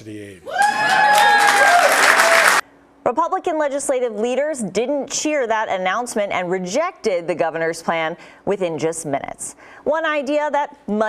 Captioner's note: cheering and applause